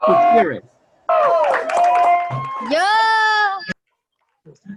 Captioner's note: cheering